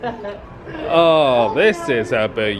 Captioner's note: laughing